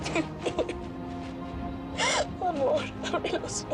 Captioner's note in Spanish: Sollozos